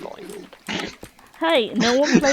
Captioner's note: laughing